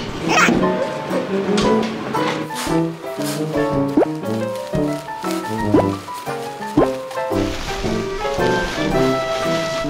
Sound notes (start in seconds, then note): 6.5 flap, flap